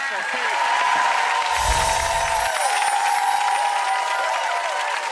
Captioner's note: audience cheering and clapping